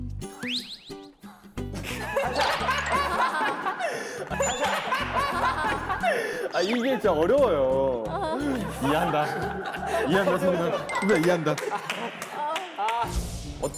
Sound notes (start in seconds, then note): 1.7 laughing